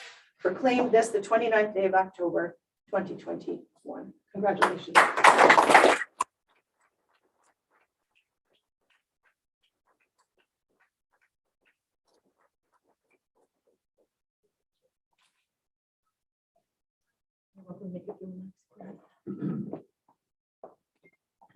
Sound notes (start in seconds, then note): 4.6 applause